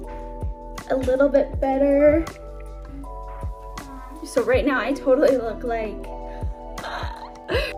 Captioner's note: laughs